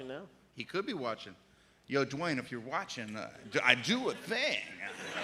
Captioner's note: laughter